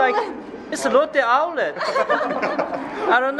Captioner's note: laughs